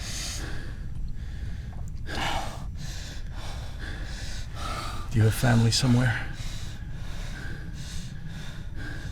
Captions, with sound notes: [swallowing] You have family somewhere?